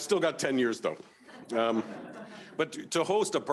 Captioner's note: audience laughing